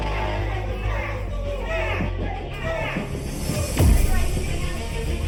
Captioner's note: churchgoers clamoring